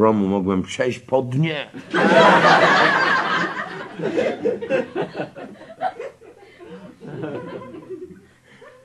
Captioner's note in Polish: śmiech